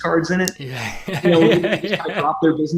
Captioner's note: laughs